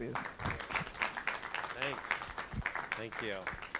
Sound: applause

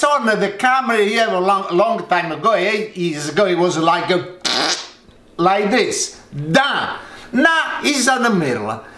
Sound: fart noise

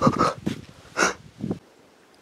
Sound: escaping sniff; sniff

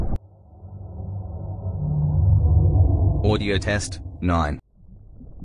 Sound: eerie ethereal transitional SFX

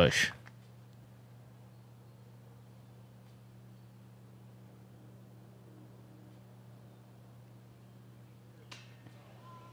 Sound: silence

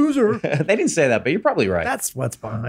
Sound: laughs

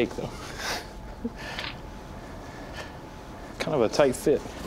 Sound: chuckles

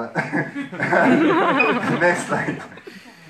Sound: laughing

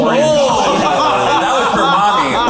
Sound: all laughing

